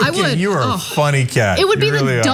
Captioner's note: laugh